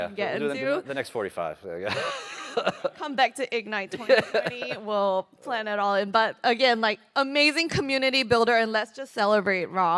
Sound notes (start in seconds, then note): 3.9 laughter